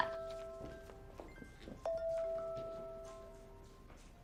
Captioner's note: phohone ringing